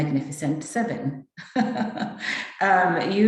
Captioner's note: laughing